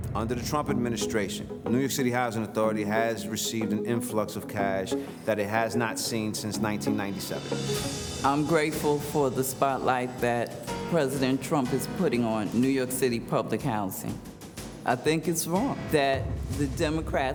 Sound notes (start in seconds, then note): none